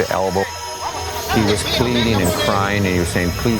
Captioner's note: soldiers yelling